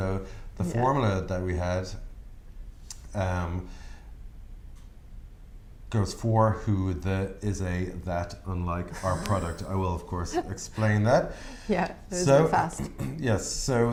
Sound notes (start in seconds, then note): 8.9 laughter